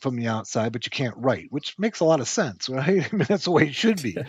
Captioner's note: chuckling